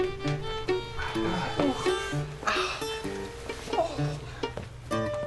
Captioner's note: precious pain noises